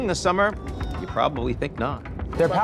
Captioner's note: people screaming